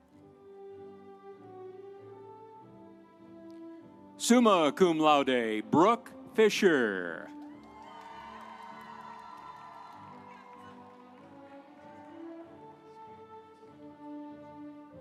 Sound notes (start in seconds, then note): 7.6 audience cheering; 8.0 instrumental music